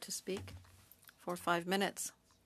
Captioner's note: speaking French